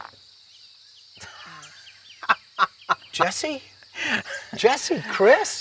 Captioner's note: laughing